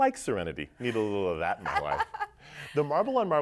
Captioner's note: laughs